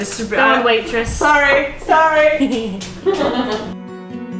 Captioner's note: laughing